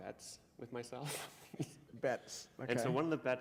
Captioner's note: chuckle